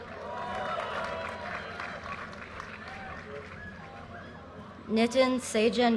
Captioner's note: audience cheers and applause